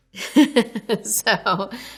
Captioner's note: laughing